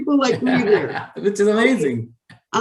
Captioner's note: laughs